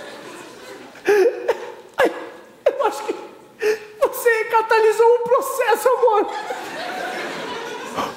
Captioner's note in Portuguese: tosse